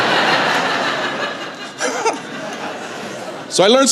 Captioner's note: laughter